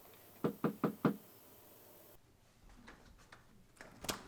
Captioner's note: light knocking